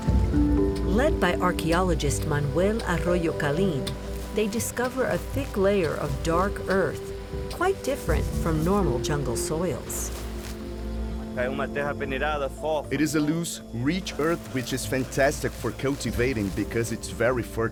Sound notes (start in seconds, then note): 11.3 speaking Portuguese